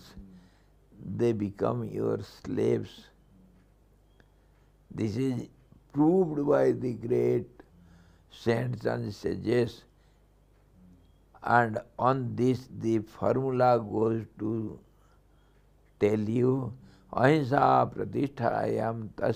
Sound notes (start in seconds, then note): 13.7 sanskrit